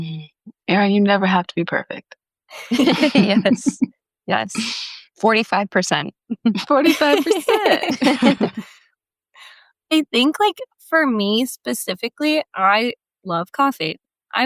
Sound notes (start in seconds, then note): 6.5 group laughing